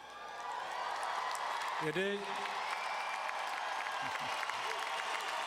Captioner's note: audience cheering and applauding